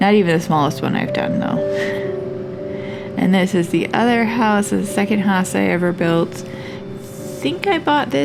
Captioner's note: laugh